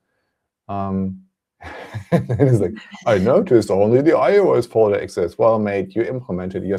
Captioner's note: laughs